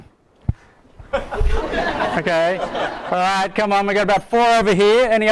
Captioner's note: audience laughing